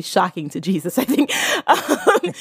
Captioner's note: both laugh